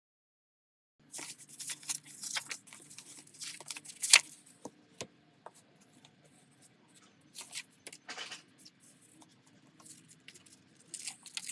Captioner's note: tearing paper